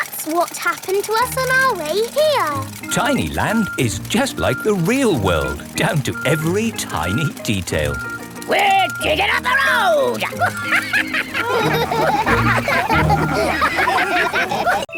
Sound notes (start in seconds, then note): 8.6 chuckles; 12.1 all laugh